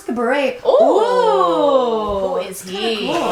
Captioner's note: awing